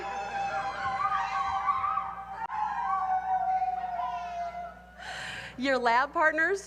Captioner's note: howls